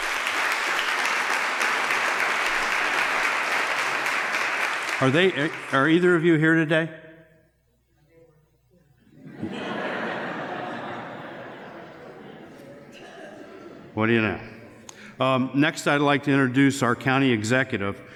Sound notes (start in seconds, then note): 1.9 applause; 12.8 laughter